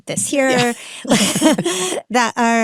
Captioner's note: both laugh